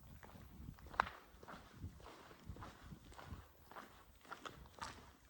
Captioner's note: echoing footsteps